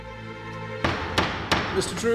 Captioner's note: gavel banging